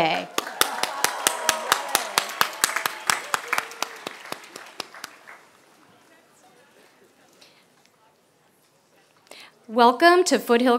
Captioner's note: applause